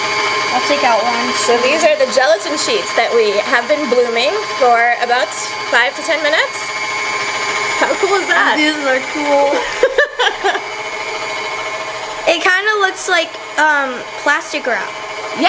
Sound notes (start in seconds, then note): 6.9 mixing continues; 9.4 woman laughing